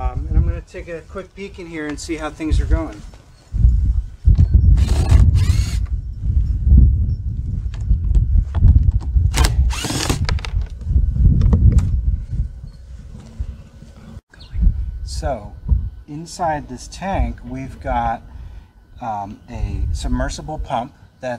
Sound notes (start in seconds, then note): 4.7 drilling machine drilling